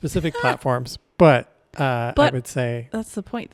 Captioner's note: chuckles